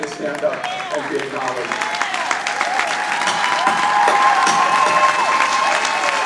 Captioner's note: audience applauding